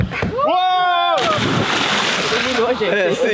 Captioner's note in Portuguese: som do mergulho